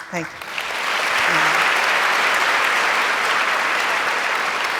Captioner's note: audience applauds